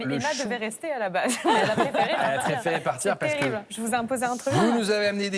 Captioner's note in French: rires